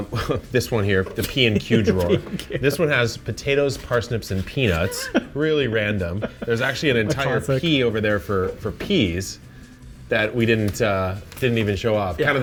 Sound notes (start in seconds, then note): 1.2 laughing; 4.7 laughs